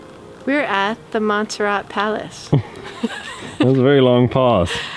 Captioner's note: chuckles